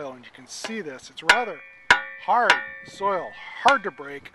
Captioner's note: clanging of shovel